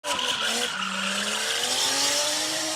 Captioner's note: car drifts